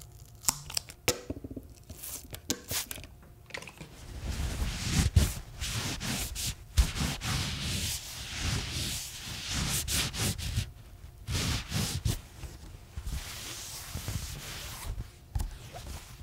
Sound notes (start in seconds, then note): 4.1 sounds of cleaning the watermelon and table